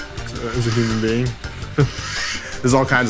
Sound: laughs

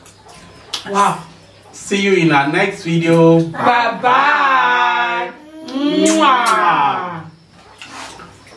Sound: kisses

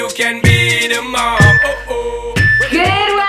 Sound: timer beeping

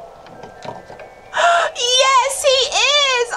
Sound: gasps

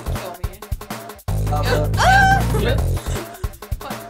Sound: screams

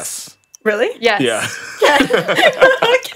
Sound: laughs

